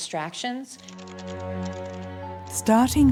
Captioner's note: typing on keyboard